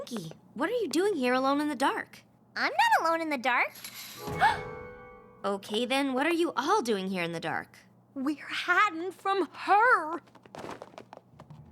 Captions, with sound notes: PINKIE, WHAT ARE YOU DOING HERE ALONE IN THE DARK? I'M NOT ALONE IN THE DARK. [ GASPS ] OKAY, THEN, WHAT ARE YOU ALL DOING HERE IN THE DARK? WE'RE HIDING FROM HER.